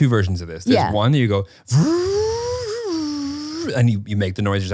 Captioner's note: imitating car sounds